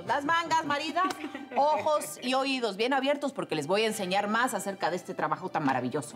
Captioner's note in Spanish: Risas